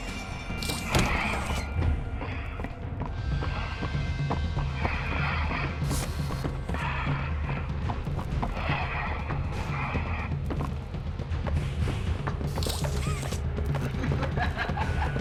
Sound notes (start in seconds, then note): 0.6 footsteps; 2.8 footsteps; 12.0 laughs